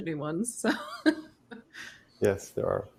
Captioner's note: chuckles